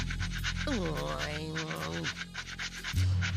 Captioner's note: grumbling